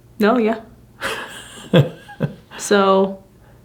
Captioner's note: chuckling